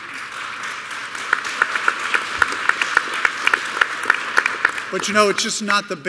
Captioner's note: applause